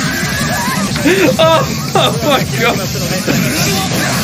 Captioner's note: laughter